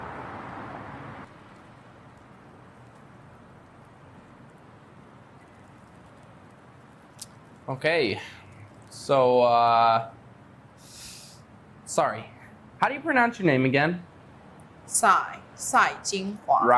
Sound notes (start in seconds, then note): 0.0 awkward silence; 4.2 awkward silence; 10.8 Joe anxious inhale